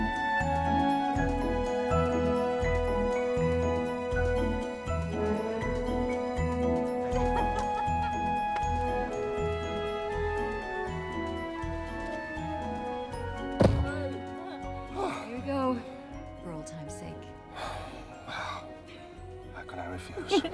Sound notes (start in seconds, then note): 7.2 audrey laughing